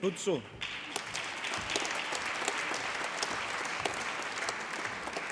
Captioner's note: applause